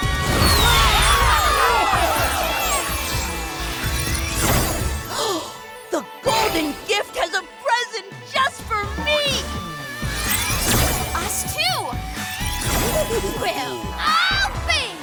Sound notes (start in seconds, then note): 0.0 cheering; 4.7 gasps